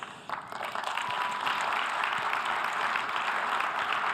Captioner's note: audience applause